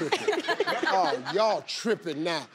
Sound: player crowd laughs

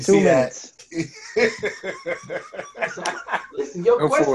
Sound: laughs

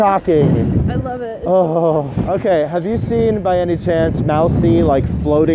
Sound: shudders

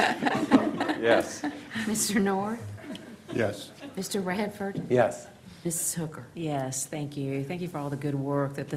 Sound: laughter

